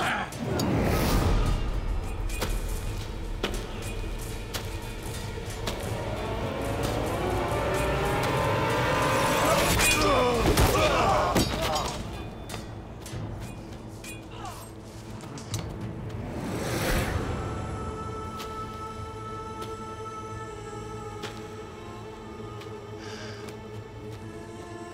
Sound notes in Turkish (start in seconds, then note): 0.3 Müzik - Gerilim; 9.1 Tekme atma sesi; 9.5 Kılıç sesi; 11.2 Düşme sesi; 13.2 Dövüş sesleri